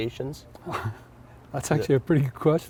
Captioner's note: chuckles